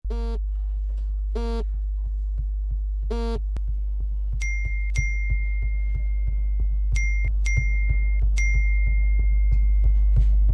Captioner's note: phone vibrating